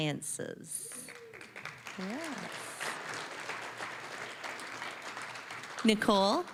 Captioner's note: applause